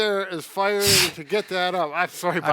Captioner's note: laughs